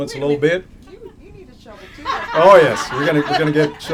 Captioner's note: laughter